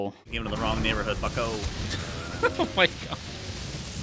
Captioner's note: laughs